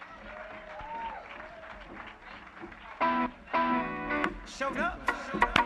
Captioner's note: cheers and applause